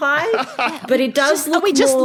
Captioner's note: laughs